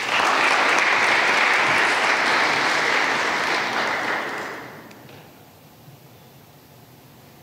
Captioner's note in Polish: oklaski